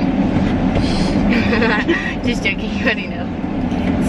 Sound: laughs

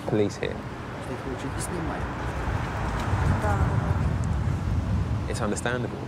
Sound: speaking in foreign language

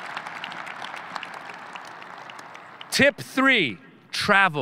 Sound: audience cheering

